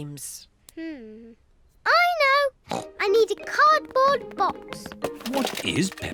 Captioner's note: snorts